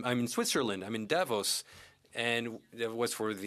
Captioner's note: speaking French